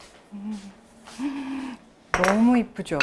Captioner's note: sighs